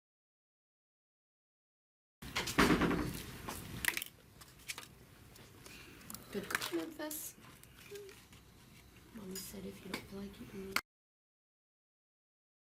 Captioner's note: eating food